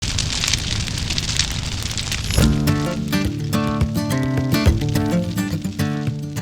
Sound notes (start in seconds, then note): 0.0 fire crackling on hill; 2.4 country music plays